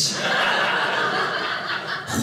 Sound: audience laughing

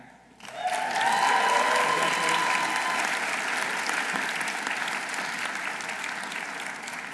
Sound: audience applauding; audience cheering

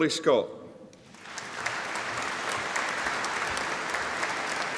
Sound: audience applauding

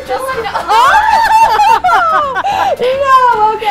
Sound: everyone laughs

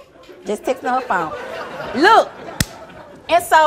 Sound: audience laughing

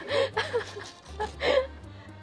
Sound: laughs

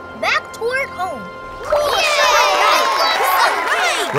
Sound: cheering

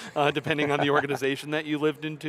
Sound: laughs

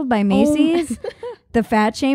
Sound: laughing

